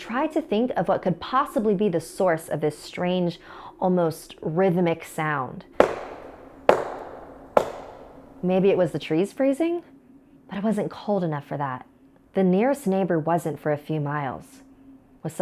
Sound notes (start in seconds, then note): 5.8 knocking